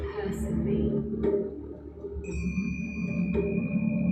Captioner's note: chiming